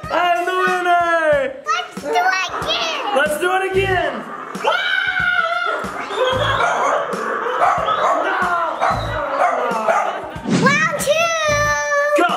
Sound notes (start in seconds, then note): 4.5 screaming; 4.6 mom growling; 6.5 dog barking; 9.3 laughing